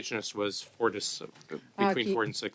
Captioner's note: speaking French